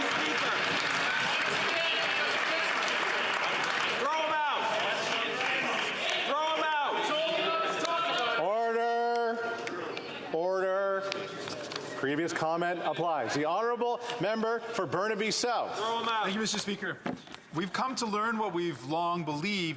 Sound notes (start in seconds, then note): 3.4 some Applause